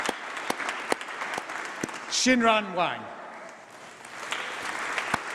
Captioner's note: applause